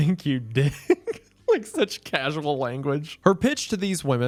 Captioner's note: laughing